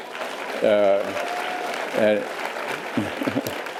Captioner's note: audience applause